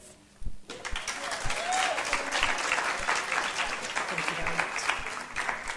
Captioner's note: applause